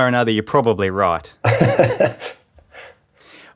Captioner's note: laughing